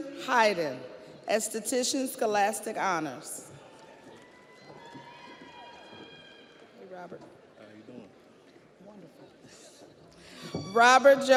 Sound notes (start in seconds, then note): 6.4 audience applauds; 6.4 audience cheers